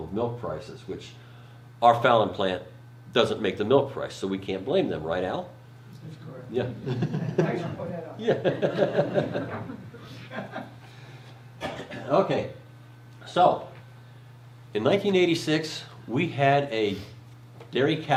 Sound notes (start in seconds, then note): 8.3 laughs